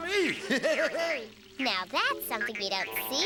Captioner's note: laughs